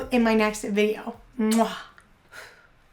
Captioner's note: kissing